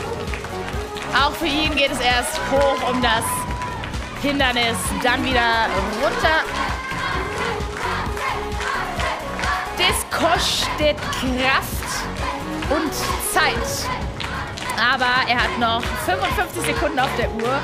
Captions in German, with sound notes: Auch für ihn geht es erst hoch um das Hindernis, dann wieder runter. (Anfeuerungsrufe) Das kostet Kraft. Und Zeit. Aber er hat noch 55 Sekunden auf der Uhr.